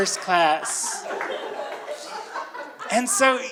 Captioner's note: audience laughing